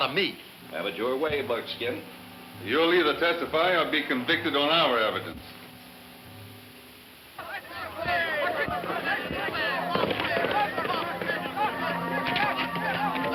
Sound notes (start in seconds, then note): 7.4 hooves thumping